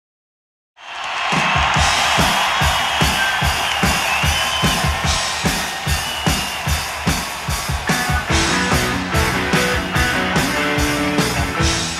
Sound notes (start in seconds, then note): 2.0 crowd cheering; 8.1 guitar playing